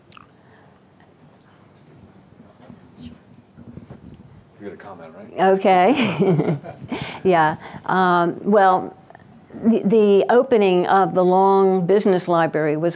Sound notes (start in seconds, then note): 5.9 laughs